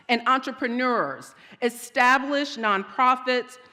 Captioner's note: none